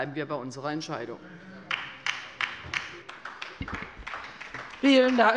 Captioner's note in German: Beifall bei der LINKEN